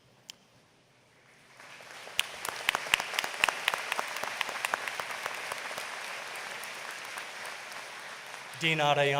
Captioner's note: applause